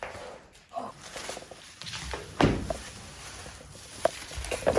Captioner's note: nylon paper crackles